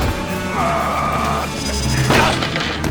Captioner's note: grunts